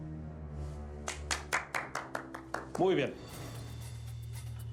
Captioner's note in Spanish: aplausos